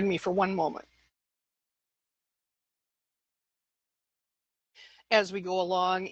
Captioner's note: silence